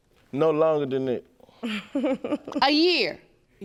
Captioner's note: chuckling